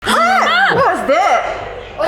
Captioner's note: screaming